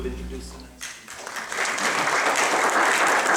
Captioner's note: applause